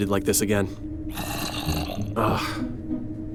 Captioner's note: zombie groans